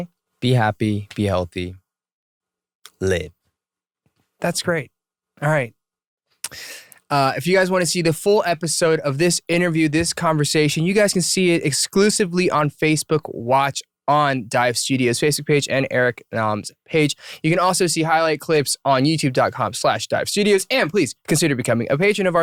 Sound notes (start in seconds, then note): none